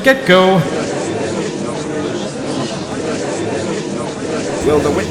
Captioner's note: gallery chattering